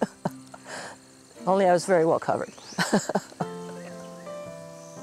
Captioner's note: laughs; laughs; gentle music